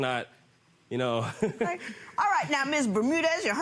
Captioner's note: laughing